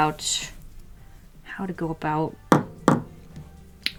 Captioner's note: tap, tap